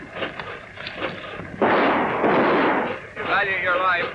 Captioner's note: gun shots